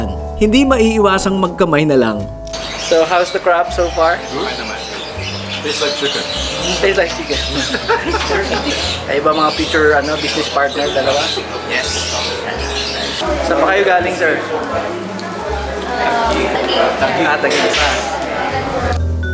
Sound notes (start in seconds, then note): 6.9 laugh; 12.9 laugh